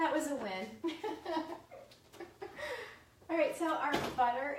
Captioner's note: laughs